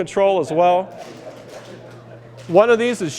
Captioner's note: laughter